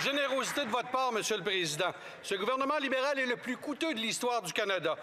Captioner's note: some Applause; speaking French